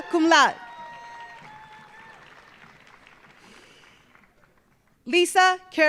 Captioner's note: audience cheering; audience applauding